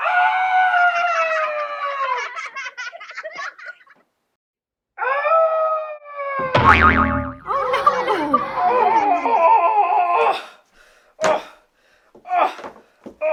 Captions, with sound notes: ahhhhhh! (laughter) ahhh! (thud) ooohhhhh, oh, ah, oh ah, oh oh, ah,